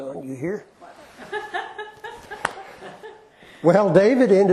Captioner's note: laughter